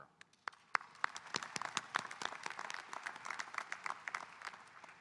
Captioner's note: audience applauding